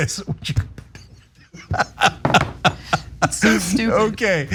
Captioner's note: laugh